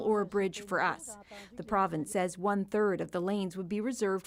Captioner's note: speaking french